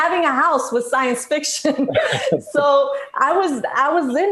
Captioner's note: laughs loudly